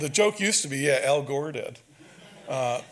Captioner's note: audience laughs